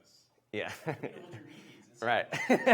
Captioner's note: laughs